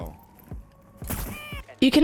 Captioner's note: screaming